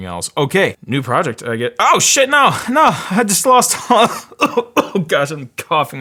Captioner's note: coughs